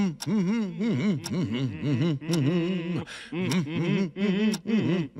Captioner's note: humming; hums